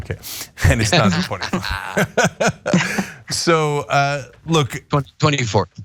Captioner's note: laugh